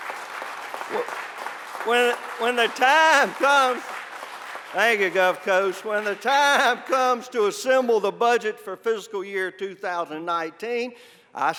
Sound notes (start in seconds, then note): 1.5 applause